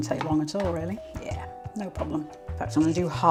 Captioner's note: coffee grinder whirring